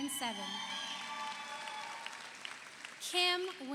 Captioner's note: audience cheers; audience applauds